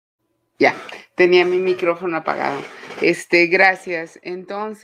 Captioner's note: speaking Spanish